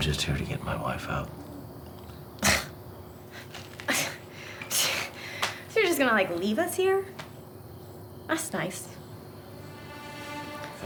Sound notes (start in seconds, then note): 3.7 scoffs